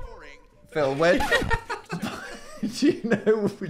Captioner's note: Phil laughing